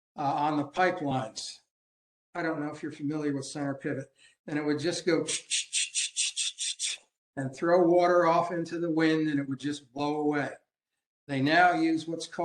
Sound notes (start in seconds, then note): 5.3 making noise of water sprayer head